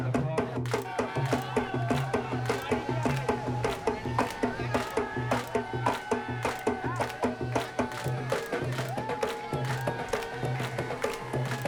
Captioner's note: crowd noises